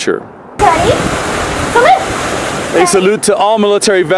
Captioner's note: water splashing